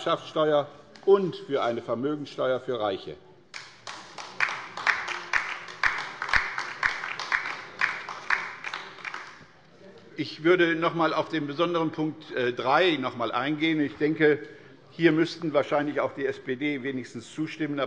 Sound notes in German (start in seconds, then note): 3.5 Beifall bei der LINKEN